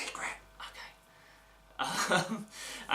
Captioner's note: whispers